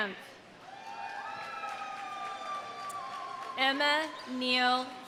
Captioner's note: audience applauding; audience cheering